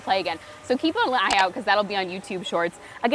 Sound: mouse clicking

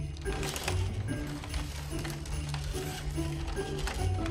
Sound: scissors cutting paper; cord unraveling

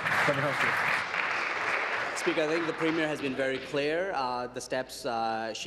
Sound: applause

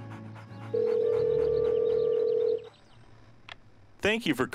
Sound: phone ringing

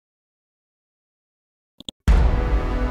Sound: clicking mouse; dramatic chord

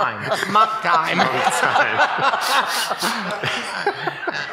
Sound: laughing

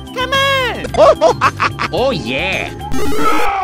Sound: laughter

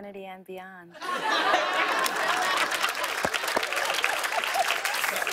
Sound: laughter

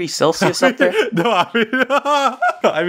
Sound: more cute laughter; oof laughing

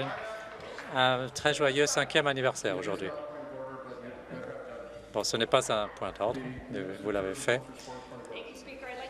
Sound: applause

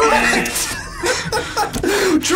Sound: both laugh

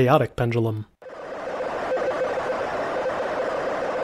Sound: computer Generated Sound

